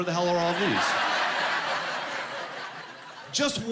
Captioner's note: laughing